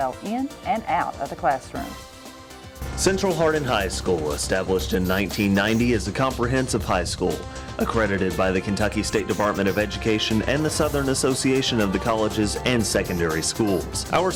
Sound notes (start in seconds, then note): none